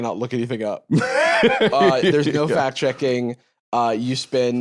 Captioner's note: laughs